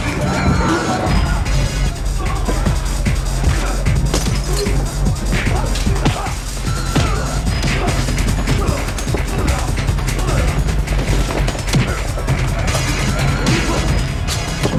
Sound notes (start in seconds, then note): 3.8 blows thudding; 12.0 blows thudding